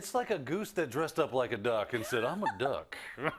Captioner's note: laugh